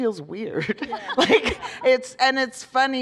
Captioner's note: laughter